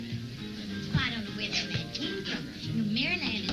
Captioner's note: door knocking